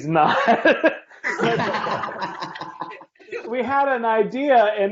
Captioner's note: laughing